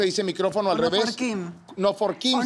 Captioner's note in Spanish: Habla al revés